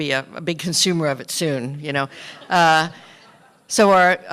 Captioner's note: laughter